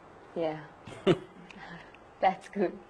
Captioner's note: laughs